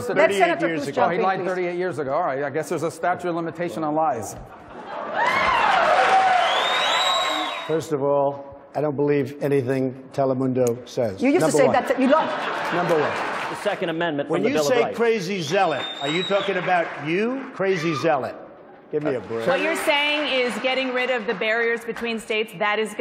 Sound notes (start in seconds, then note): 4.4 laughter; 5.5 applause; 15.5 applause